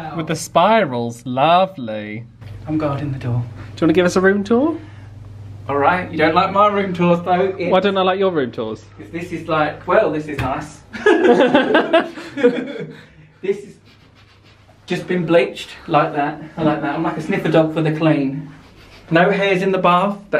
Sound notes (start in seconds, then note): 10.9 laughing; 13.8 sniffing